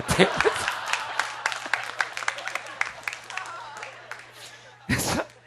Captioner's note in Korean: 웃음